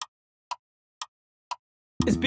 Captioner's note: clock Ticking